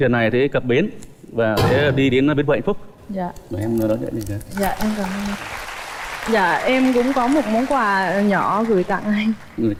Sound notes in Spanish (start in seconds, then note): 4.7 Aplaudir